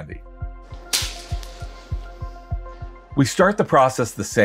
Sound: candy shatters

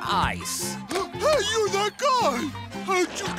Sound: gasping

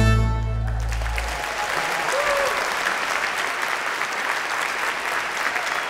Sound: audience applauding

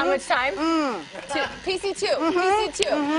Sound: laughing

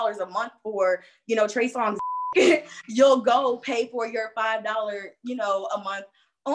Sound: beep

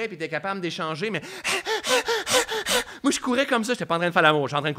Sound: bruits d'essoufflement

